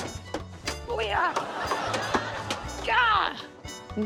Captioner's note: exclaims